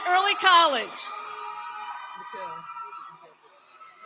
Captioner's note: cheering